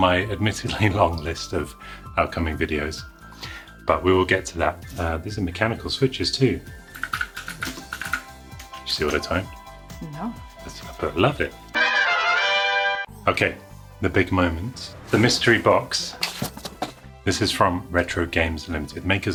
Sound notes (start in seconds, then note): 7.8 keyboard clacking